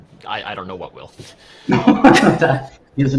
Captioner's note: laughter